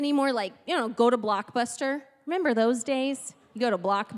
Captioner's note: none